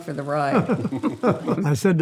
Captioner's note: guys laugh